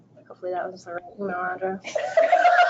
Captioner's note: laughing